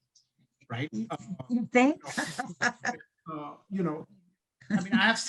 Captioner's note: laughing